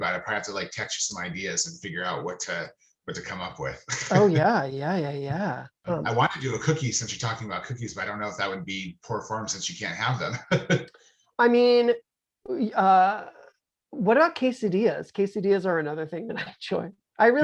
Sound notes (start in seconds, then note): 9.0 laughing